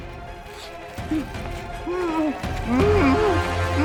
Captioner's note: Jack grunting